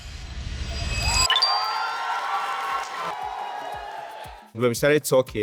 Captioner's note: applause